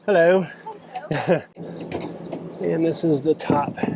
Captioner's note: laughs